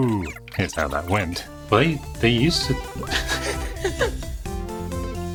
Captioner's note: laughs